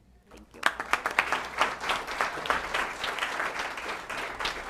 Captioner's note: applause